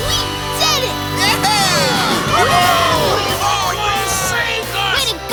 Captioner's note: cheering